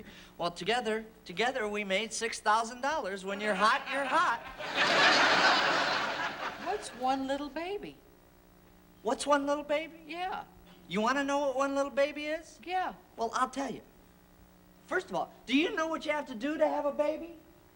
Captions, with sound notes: Well, together we made $6,000. When you're hot you're hot. [ Laughter ] What's one little baby? -What's one little baby? -Yeah. You want to know what one little baby is? -Yeah. -Well, I'll tell you. First of all, do you know what you have to do to have a baby?